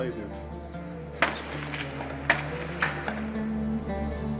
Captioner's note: gunshots